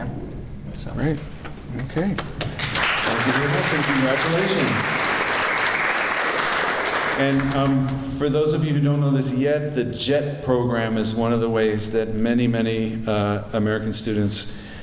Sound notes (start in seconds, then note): 6.2 clapping